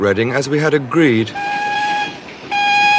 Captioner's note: horn blowing